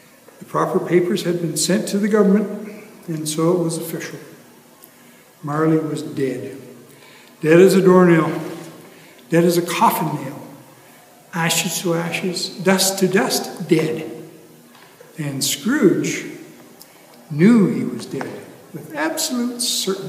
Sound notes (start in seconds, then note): none